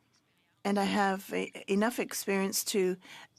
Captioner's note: speaking French